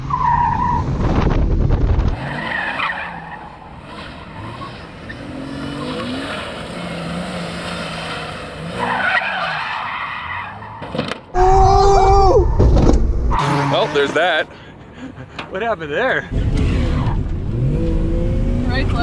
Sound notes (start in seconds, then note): 0.6 tires screech